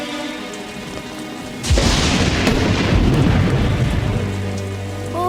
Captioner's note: rain pattering; suspenseful music; thunder crashing